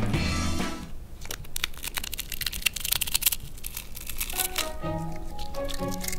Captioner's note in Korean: 바스러지는 소리